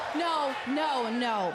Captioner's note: crowd cheering